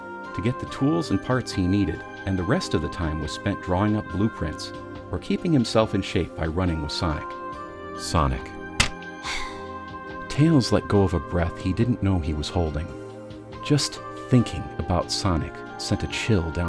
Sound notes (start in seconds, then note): 8.5 envelope crinkling; 9.1 exhales